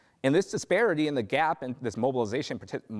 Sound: stammers

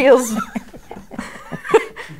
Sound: laughter

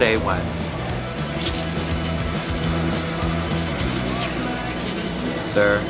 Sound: cheese squelches

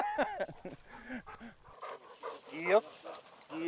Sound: laughs; Belle panting

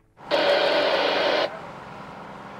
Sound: radio static

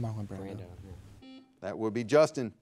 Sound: buzzer beeping

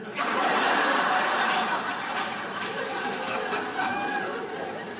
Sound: audience laughing

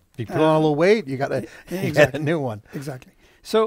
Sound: chuckles

